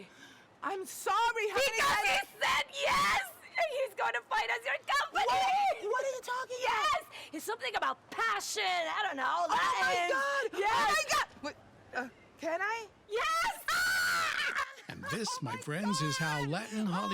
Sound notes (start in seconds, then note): 13.7 both shouting joyfully